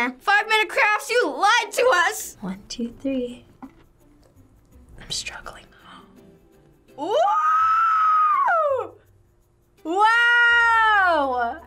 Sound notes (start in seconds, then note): 5.7 gasps